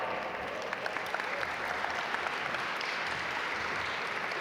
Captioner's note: audience applaud